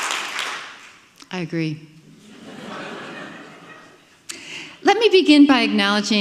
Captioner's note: audience laughing